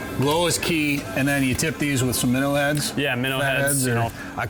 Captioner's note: none